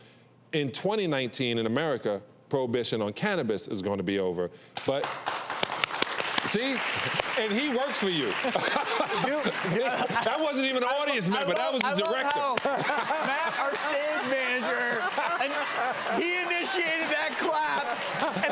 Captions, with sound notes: In 2019 in America, prohibition on cannibis is gonna be over... (applause) See? And he works for you. That wasn't even a audience member, that was the director. Matt, our stage manager, and he initiated that clap.